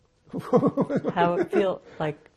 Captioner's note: laughing